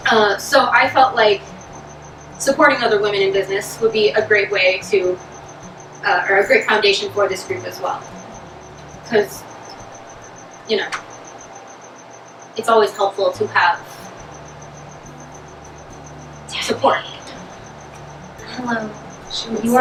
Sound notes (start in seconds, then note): 16.5 off-screen person, whispering